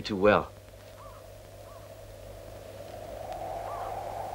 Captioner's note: hawk crying